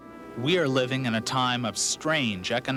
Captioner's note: voiceover